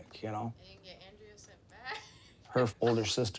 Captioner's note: laughs